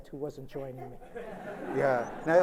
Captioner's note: laughter